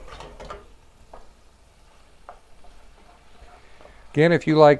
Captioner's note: silence